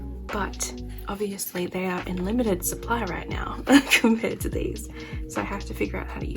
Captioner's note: laugh